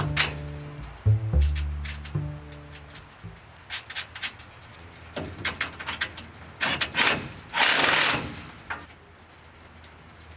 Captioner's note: sound coming from metal touching each other, screwing metal together